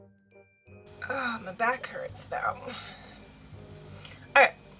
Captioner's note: sighs